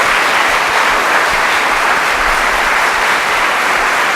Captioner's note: applause